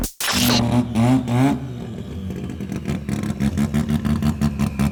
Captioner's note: engines rumbling